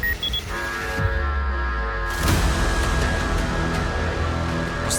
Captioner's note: alarm sounding